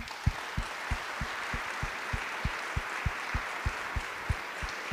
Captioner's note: applause